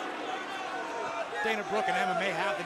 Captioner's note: crowd chatter